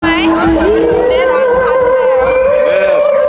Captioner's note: laughing